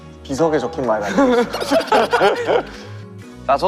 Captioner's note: hahaha